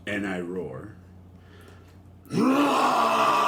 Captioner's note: roars